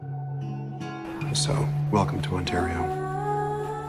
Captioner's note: voiceover